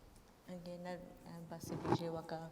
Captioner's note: speaking kurdish